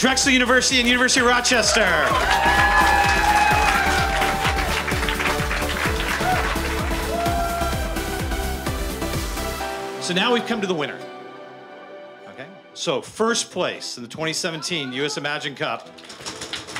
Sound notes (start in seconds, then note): 4.7 applause